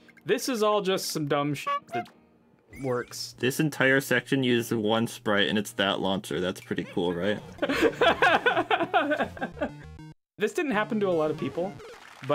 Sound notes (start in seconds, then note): 6.8 laughing